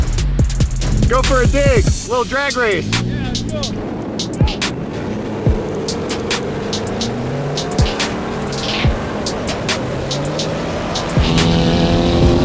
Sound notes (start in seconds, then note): 3.9 wind howling; 7.4 engine revving; 7.4 hip hop music